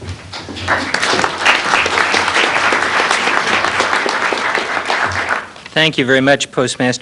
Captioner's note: applause